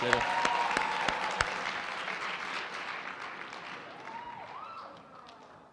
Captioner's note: applause